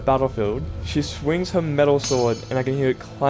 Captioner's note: swords clang